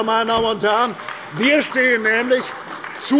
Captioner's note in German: Beifall bei der CDU